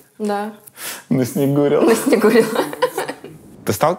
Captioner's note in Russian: смеются